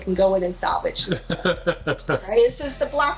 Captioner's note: laughs